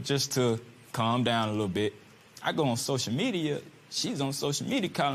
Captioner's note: none